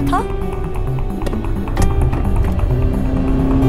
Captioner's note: Gear shifting; Car speeding